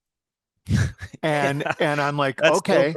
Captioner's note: chuckle